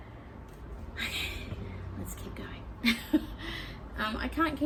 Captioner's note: with a sigh; chuckles